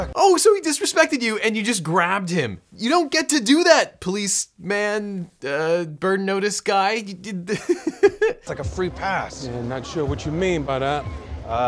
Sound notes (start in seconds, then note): 7.3 laughs